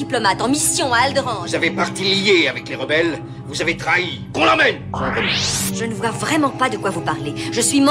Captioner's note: whoosh